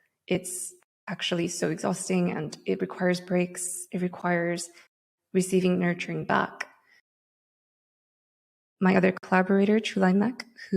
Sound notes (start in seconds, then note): none